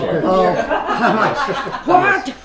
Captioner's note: laughing